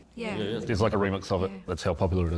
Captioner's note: crowd agrees